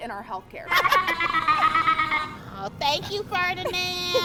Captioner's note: laughs